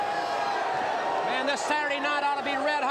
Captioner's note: crowd cheering